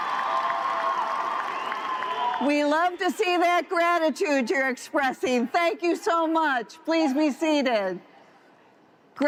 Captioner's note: cheers and applause